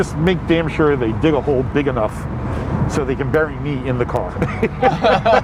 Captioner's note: laughs